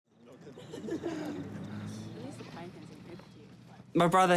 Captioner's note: laughter, indistinct chatter